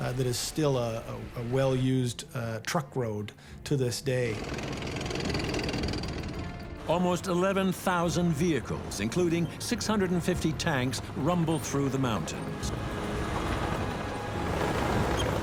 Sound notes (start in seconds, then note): 4.4 tank clattering; 12.4 dramatic music